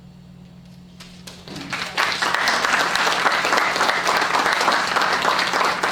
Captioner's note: applause